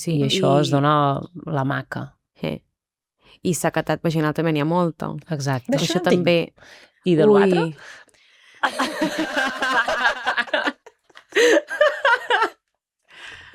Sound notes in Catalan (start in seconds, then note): 8.6 rialles